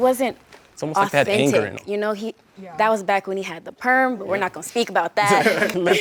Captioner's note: everyone laughs